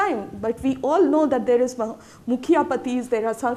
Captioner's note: speaking Hindi